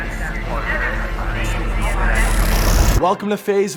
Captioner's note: loud electronic glitching